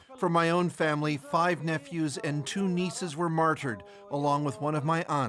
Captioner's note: speaking alternate language